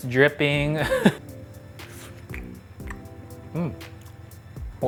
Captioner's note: laughing